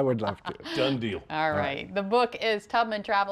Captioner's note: laughter